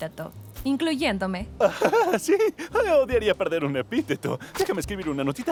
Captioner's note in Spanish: Risa nerviosa